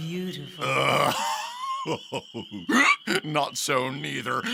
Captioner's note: Bottom laughs